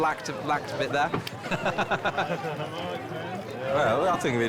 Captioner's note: laughs